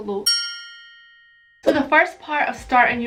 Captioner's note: bell dings